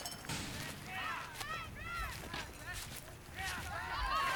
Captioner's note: people yelling